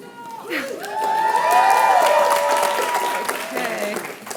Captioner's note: applause